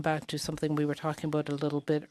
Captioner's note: speaking in French